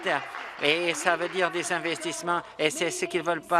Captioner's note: applause